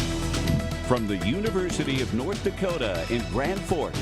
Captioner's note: voiceover